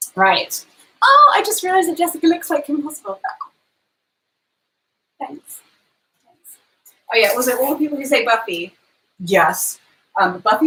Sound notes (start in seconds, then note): none